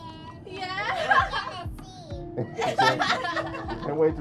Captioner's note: laughing